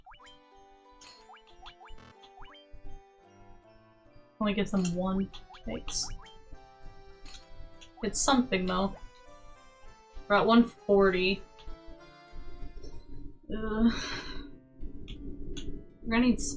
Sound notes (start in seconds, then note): 1.3 humming